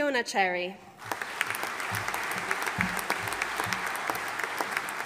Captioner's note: audience applauding